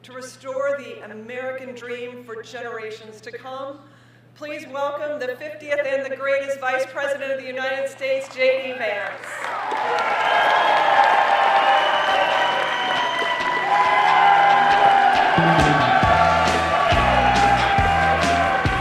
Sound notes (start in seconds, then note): 10.5 applause